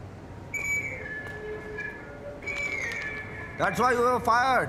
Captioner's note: electronic alarm sounding